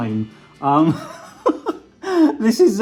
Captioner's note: laughing